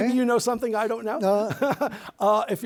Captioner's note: chuckling